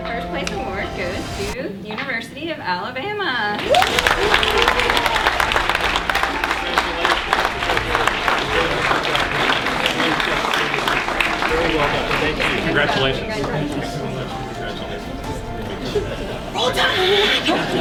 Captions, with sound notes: - And the first place award goes to University of Alabama. (clapping) - Congratulations. - Very well done. - Congratulations. - Roll Tide!